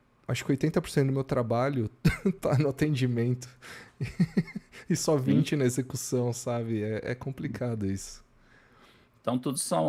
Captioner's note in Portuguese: risadas